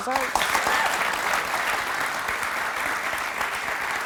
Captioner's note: audience cheering